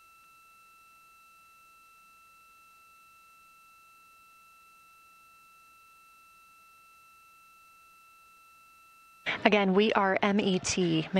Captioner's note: silence